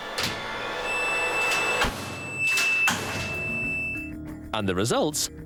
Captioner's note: suspenseful music; machinery beeping